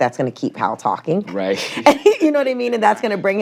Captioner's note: chuckles